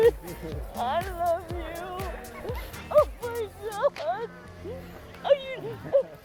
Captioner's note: crying